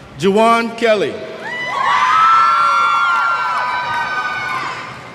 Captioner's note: cheers